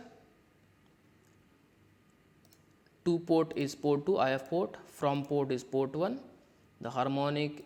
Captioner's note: click